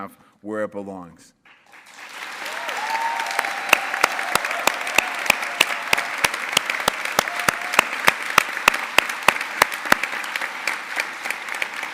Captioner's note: applause